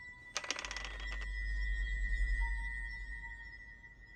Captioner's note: rattling